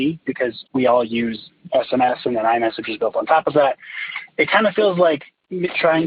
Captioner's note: none